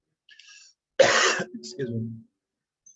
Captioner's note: coughs